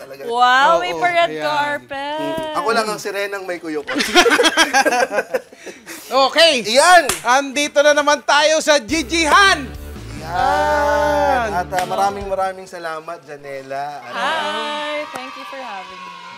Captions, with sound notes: - Wow, how fancy! - Of course! I'm the only mermaid with a butt crack. [LAUGHTER] Alright, welcome back to GG-Han! - Yeah! - Yeah! Thank you so much for coming, Janella. Hi! Thank you for having me.